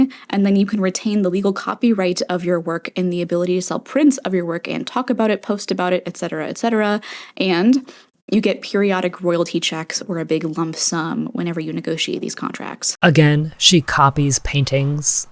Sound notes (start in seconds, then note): 6.9 inhale; 7.7 sniff